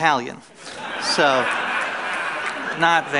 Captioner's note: laughter